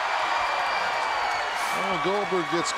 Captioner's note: crowd cheering